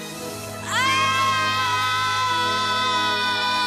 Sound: menacing music playing; both screaming

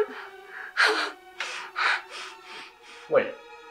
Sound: man breathing heavily

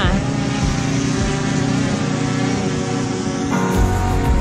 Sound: drone sound

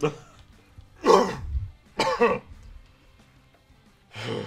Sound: coughing

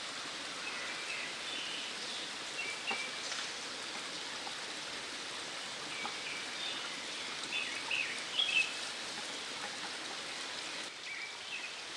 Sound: nature sound

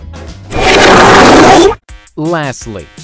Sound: guy reverses fard

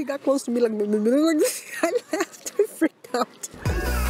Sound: laughs

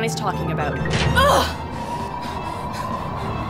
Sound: door latch, grunts

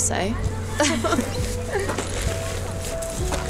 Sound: girls laugh

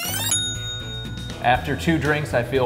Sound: ding!

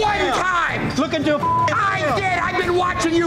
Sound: beeps

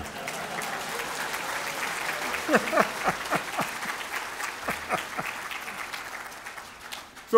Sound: applause

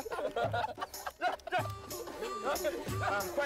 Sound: laughing

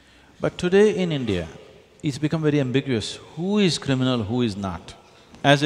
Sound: none

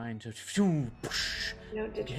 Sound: mimics explosion

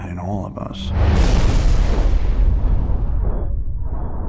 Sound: thunder rolls

